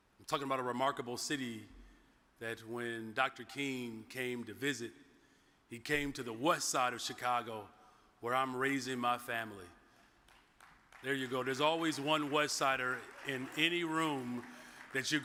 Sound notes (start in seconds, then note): 10.2 audience member claps